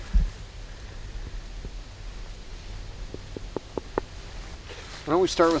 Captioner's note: finger tapping